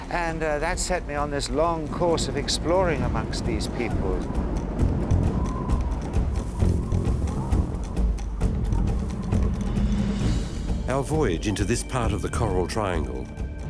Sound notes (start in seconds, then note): 4.2 wind gusts; 6.3 tribal drum music